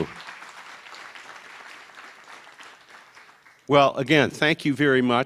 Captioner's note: audience applause